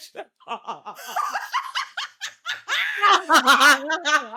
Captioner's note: laughing